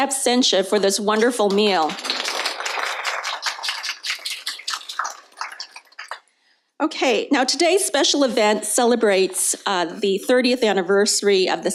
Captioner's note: applause